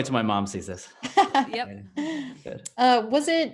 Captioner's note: laughs